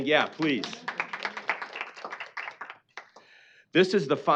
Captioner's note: applause